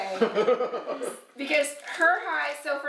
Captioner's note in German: kichern